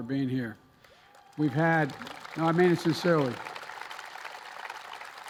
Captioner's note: applause